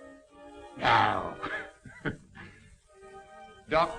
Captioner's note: laughing